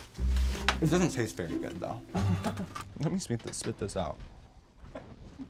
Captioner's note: muffled because she's chewing